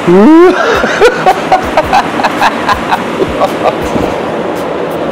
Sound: laughs

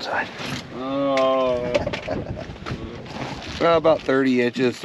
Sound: chuckling

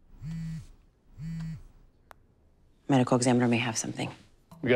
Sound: phone vibrating

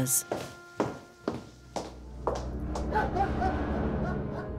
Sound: dog barks

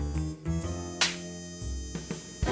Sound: smacking noise

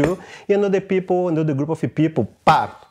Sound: vocalizes rhythm

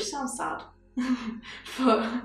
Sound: laughter

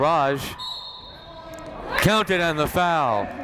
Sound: whistle blowing

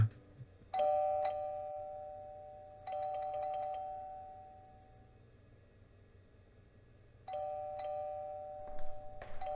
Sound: doorbell ringing

